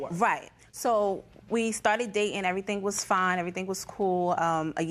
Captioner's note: none